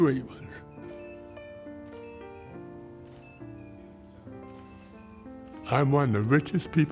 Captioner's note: lively piano music; device tweeting